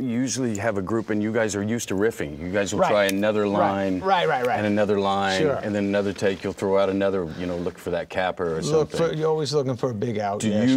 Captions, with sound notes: Usually you have a group and you guys are used to riffing. You guys will try another line (snaps fingers) and another line, and then another take you'll throw out another, you know, look for that capper or something. - You're always looking for a big (mutters) sure.